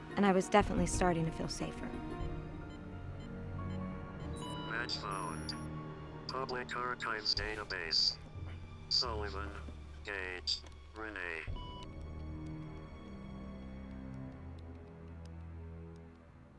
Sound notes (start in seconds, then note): 2.6 beeping; 2.6 dark brooding music; 5.3 electronic Voice On Computer; 12.2 keyboard keys clacking